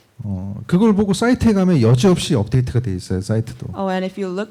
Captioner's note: speaking korean